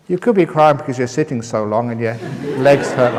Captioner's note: laughter